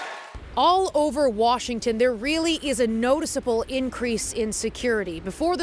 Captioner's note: applause